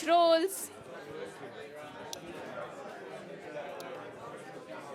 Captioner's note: chatter